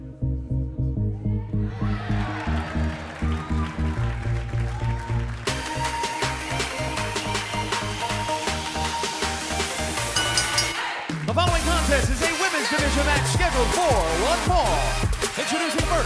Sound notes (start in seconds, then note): 1.6 crowd cheering; 10.0 bell ringing